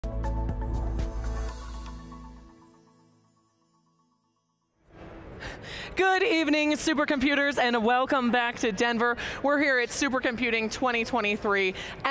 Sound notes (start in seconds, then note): 0.0 intro music; 5.1 crowd bustling